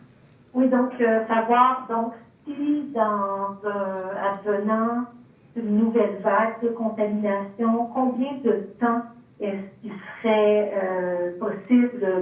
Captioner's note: speaking French